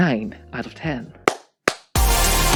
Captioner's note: claps